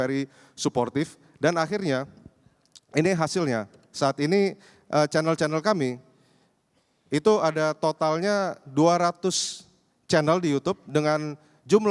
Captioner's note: non-english speech